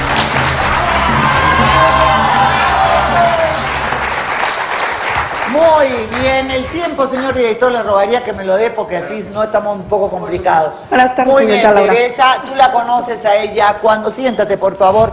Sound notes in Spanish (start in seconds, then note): 5.4 aplausos